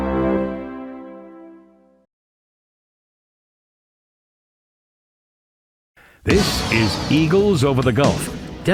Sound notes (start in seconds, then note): 3.4 silence